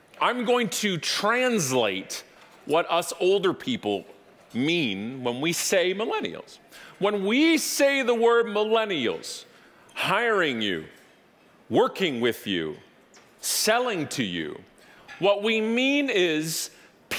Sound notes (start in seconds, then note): none